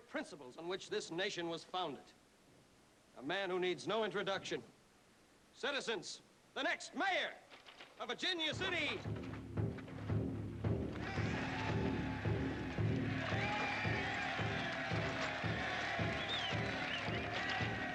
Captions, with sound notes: ON WHICH THIS NATION WAS FOUNDED, A MAN WHO NEEDS NO INTRODUCTION. CITIZENS, THE NEXT MAYOR OF VIRGINIA CITY... ( drum beating ) ( cheering and applause )